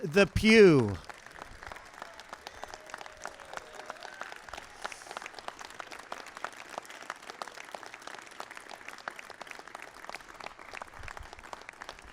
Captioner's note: applause